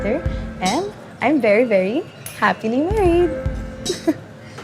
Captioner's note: chuckles